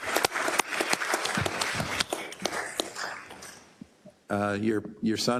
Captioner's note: applause